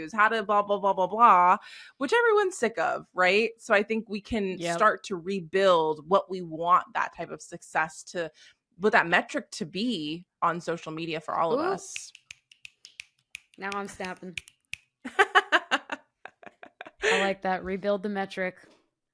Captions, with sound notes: how to blah, blah, blah, blah, blah, blah, which everyone's sick of, right? So I think we can start to rebuild what we want that type of success to-- what that metric to be on social media for all of us. - Ooh. [SNAPPING FINGERS] Now I'm snapping. - [LAUGHS] - I like that. Rebuild the metric.